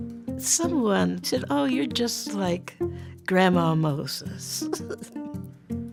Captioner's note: laughs